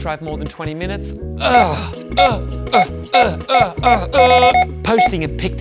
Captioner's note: groaning as scanner beeps repeatedly